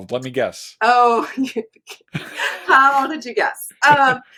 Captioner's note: laughs